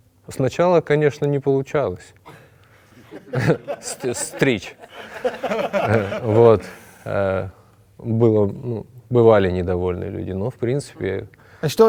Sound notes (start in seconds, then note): 5.5 laugh